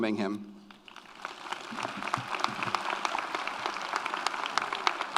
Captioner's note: audience applauds